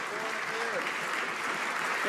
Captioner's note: some Applause